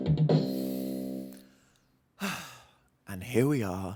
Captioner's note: upbeat music; inhales and exhales